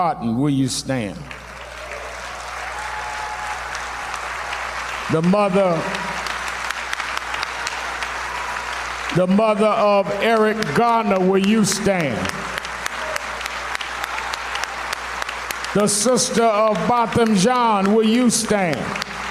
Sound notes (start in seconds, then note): 13.5 applause